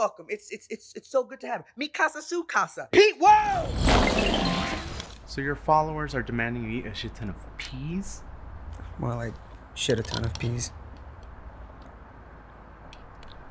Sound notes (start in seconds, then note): 3.5 sounds occur of crashing and mayhem